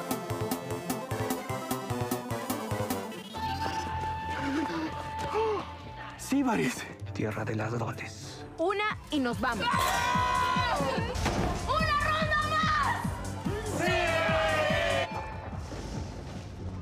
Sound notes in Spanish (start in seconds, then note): 9.6 gritan